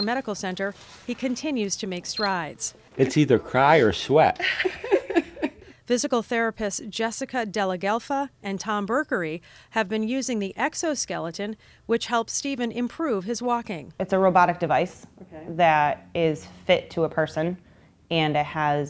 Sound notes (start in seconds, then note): 4.3 laugh